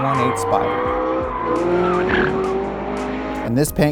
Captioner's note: engine revving; tires screeching